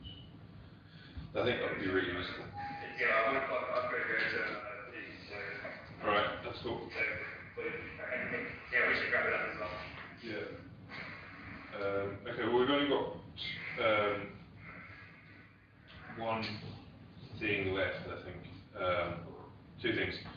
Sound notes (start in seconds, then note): 2.5 audio distorts